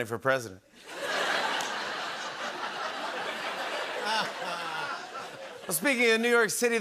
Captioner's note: laughter